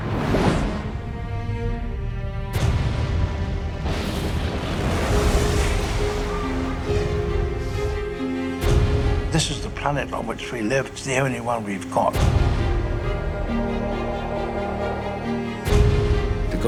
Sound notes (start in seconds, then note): 0.1 air whooshing; 0.1 intriguing music; 3.8 building crashing; 4.5 suspenseful music; 14.0 pensive music